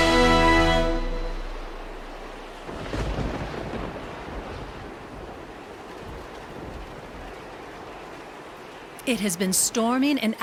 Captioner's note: sound of storm winds blowing